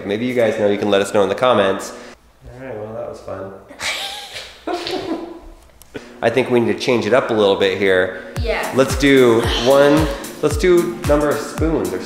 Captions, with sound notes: Maybe you guys know, you can let us know in the comments. Alright, well, that was fun. (both laughing) I think we need to change it up a little bit here. - Yeah. - Let's do one, let's do number of spoons